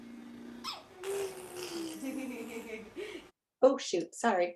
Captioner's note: baby blows a raspberry; laughing